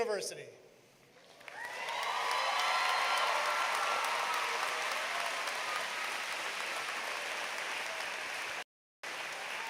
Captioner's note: applause